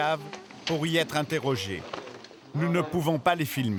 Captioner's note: French spoken audio